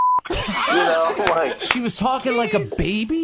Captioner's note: they laugh